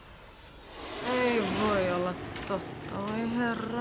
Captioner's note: speaks Finnish